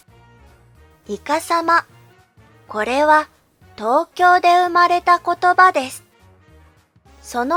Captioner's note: Tokyo dialect